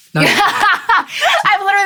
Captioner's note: laughs